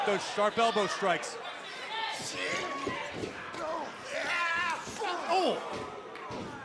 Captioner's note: crowd cheering